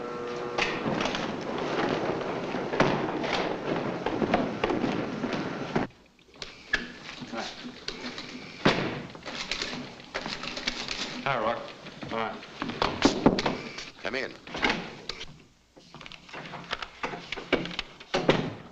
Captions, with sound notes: Hi. (door bangs shut) Hiya, Rourke. - Hi. (knocking at door) - Come in.